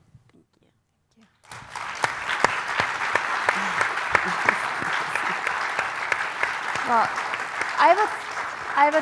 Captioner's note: applause